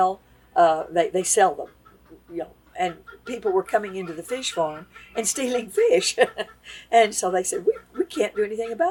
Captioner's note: laughs